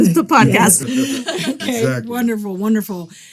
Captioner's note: group laughing